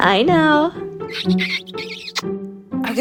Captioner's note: kissing noises